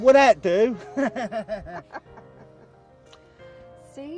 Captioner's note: laughing